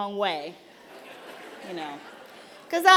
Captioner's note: laughter